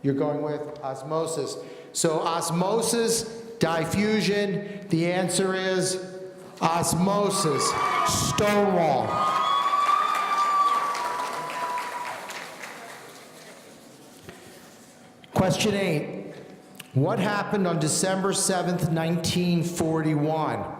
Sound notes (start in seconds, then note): 9.8 audience cheering